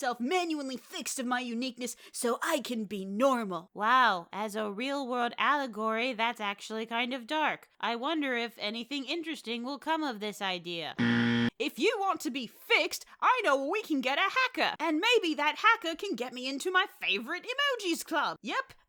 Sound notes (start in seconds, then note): 11.0 negative buzzer sound